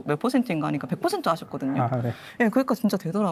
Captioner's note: laughs